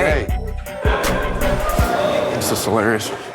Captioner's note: chatter